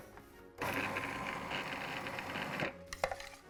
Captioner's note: mixer hums; upbeat music